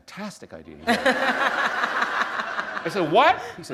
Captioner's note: laughter